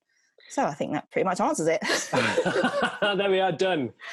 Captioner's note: laughs